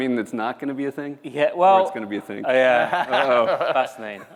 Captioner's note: laughter